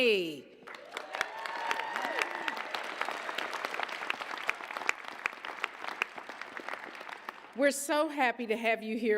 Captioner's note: applause, cheers